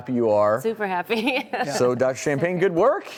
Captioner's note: laughs